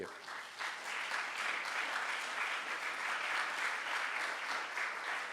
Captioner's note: audience applauding